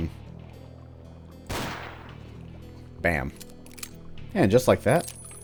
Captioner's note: bang